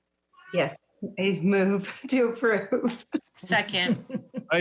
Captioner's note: laughs